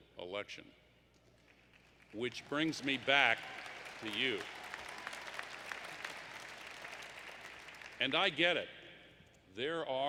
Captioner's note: applause